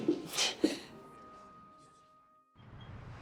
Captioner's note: laughs